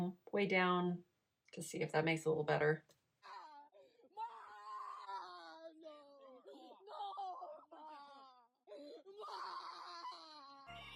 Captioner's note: crying, Ma! Ma!